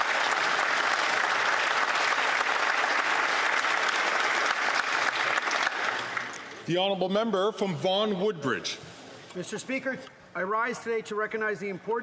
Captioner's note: some Applause